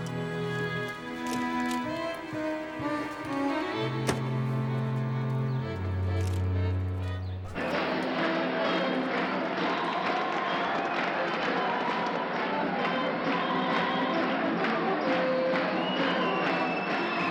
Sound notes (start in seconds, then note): 0.2 ambient music; 8.3 people cheering